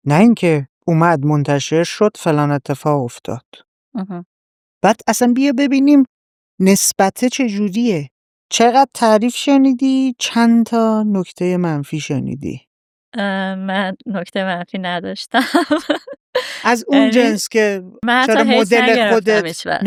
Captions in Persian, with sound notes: نه این‌که اومد منتشر شد، فلان اتفاق افتاد. بعد اصلاً بیا ببینیم نسبته چه‌جوریه؟ چقدر تعریف شنیدی، چند تا نکته‌ی منفی شنیدی؟ - من نکته‌ی منفی نداشتم (خنده) - از اون جنس که چرا مدل خودت - من حتی Hate نگرفتم هیچ‌وقت.